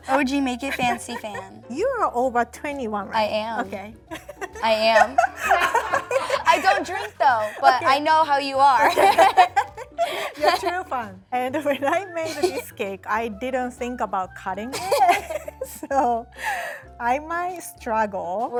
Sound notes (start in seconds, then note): 4.1 laughs; 8.8 laugh; 14.8 laughs